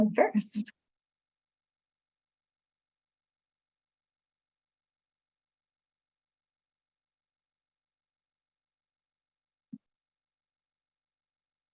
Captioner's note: silence